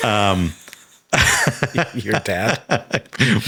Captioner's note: Hank chuckling; Sam laughing